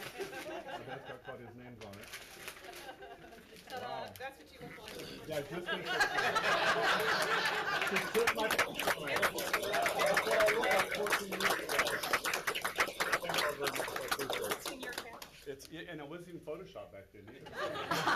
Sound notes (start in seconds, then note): 3.8 laughs; 6.3 claps; 17.9 laughs